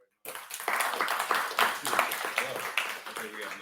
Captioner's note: audience clapping